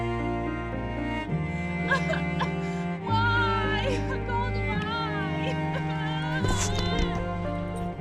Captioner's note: crying; more crying